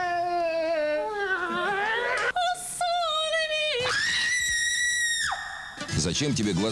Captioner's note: screams; sings